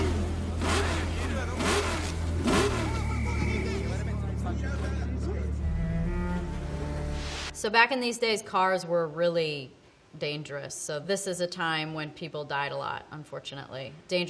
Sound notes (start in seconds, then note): 0.0 car engines rev